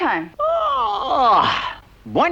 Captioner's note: yawns